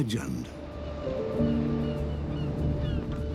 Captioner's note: gulls mewing